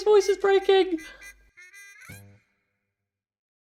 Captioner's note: squeaking